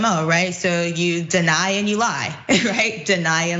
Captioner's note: laugh